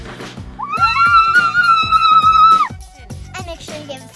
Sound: cheering

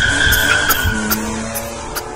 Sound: Bendy Coughs

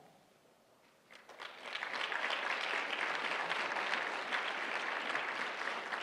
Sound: applause

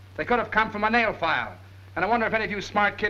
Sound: none

